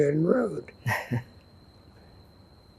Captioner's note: laughing